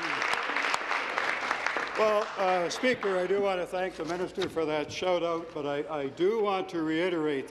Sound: applause

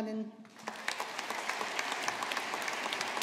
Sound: audience applauding

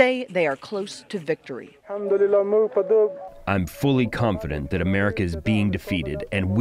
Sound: through translator

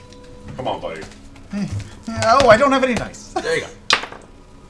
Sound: laughs

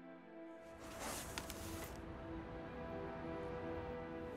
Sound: box rustles

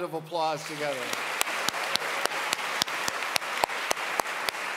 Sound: audience claps

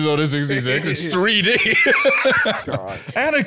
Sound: laughing

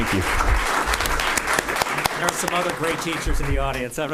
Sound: applause

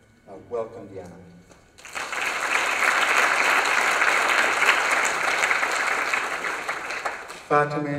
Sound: applause

